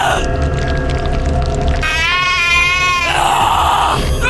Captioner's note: flesh sloshing